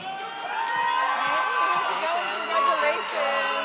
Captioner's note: audience cheers